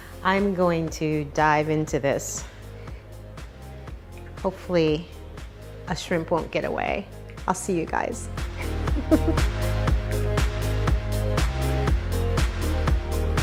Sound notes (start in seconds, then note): 8.9 laughing; 10.2 upbeat techno music